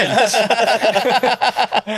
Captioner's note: laughing